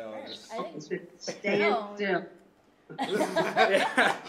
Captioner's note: laughter